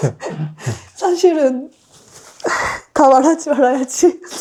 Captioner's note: tearful laugh